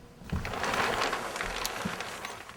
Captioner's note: plastic rustles